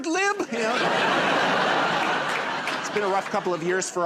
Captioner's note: laughter